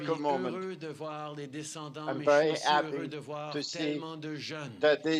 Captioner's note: speaking french